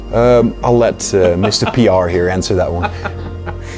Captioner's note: خنده